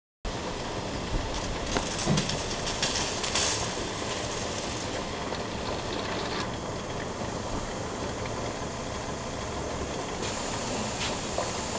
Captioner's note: sound of steam venting from the canner